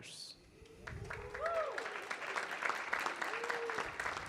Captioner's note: audience clapping